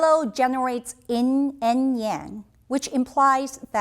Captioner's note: speaking in Chinese language